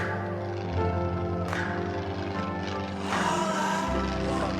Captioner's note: airplane rumbles